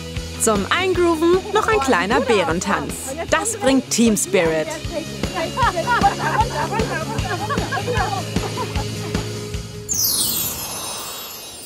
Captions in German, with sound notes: Zum Eingrooven noch ein kleiner Bärentanz. Das bringt Teamspirit. Runter, runter, runter, runter! (Gelächter) (Rockige Musik)